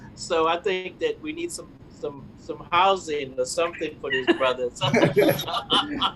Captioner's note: laugh